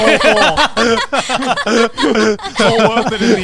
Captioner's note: everyone laughing